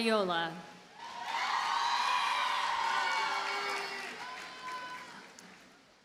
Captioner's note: audience cheers and applauds